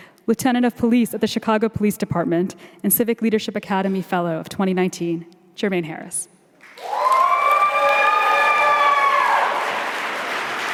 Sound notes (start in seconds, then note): 6.7 audience cheering